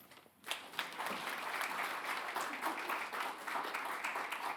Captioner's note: attendees applauding